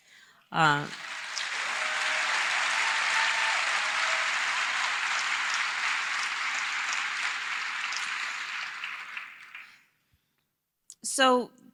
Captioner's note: applause